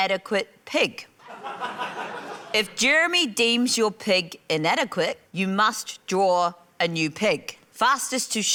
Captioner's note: laughter